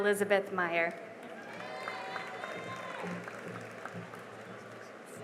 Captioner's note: cheering and applause